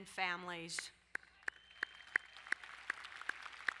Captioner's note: applauding